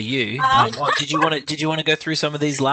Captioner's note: laughter